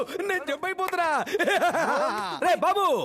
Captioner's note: Laughs